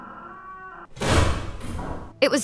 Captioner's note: door slams shut